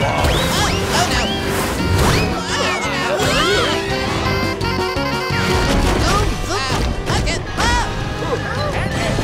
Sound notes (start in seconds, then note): 2.1 screaming; 5.7 yelling